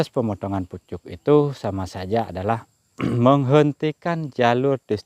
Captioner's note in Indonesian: berdehem